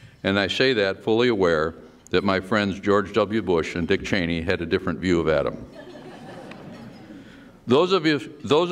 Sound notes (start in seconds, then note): 5.7 laughter